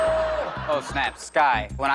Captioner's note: audience groans